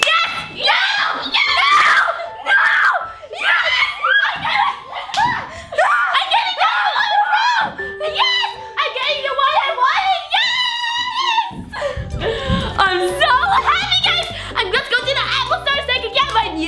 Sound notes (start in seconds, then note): 2.6 cheering; 3.3 screaming